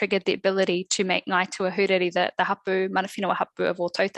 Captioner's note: non-english speech